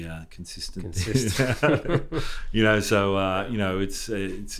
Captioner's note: people laughing